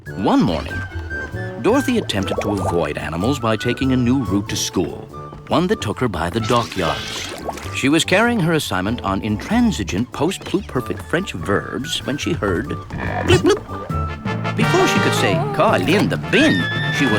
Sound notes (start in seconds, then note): 12.8 bloop-bloop!